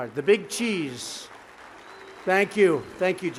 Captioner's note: applause